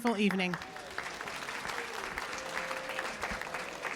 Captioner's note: applause